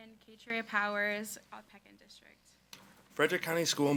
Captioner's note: faintly speaking